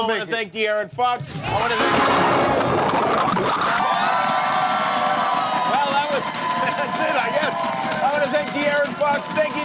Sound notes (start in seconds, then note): 1.4 crowd gasping; 3.8 crowd cheering